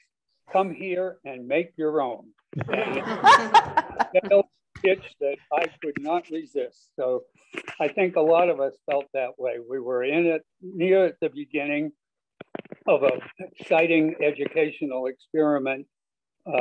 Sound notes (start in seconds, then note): 2.6 laughter